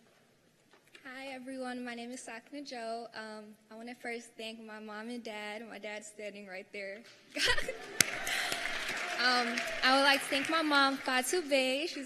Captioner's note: cheers and applause